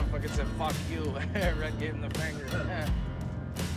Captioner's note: laughs